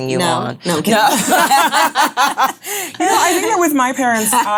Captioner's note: all laughing